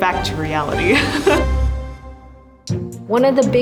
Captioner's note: laughs